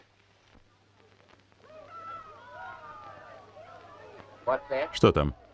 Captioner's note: crowd shouting